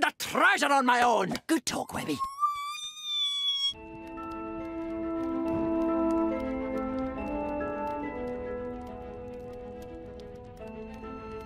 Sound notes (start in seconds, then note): 2.1 high-pitched babbling; 3.7 suspenseful music playing